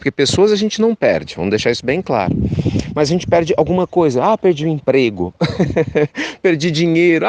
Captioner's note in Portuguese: risos